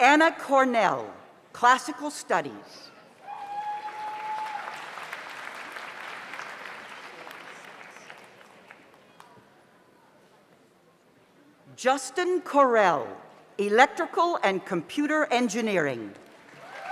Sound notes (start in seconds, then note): 3.2 audience cheers; 3.4 audience applauds